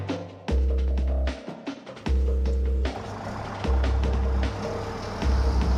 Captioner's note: energetic music; vehicles rumbling